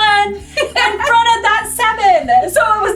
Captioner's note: laughing